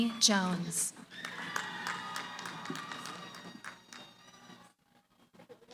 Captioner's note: cheering